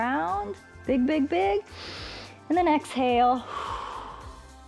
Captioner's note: exhales; inhales